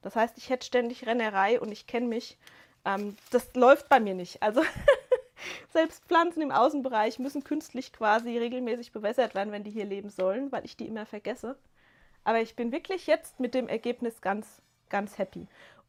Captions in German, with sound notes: Das heißt, ich hätte ständig Rennerei und ich kenne mich. Ähm, das läuft bei mir nicht. Also [gelächter] selbst Pflanzen im Außenbereich müssen künstlich quasi regelmäßig bewässert werden, wenn die hier leben sollen, weil ich die immer vergesse. Aber ich bin wirklich jetzt mit dem Ergebnis ganz ganz happy.